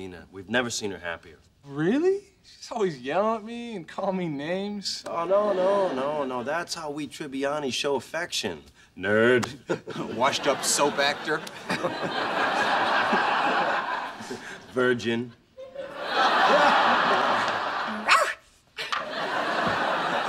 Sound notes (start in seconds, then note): 18.0 barks